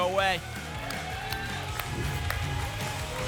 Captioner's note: applause and cheering